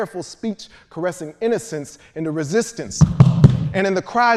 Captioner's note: feet stomping